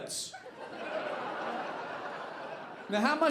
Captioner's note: audience laughing